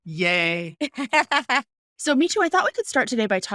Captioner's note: laughing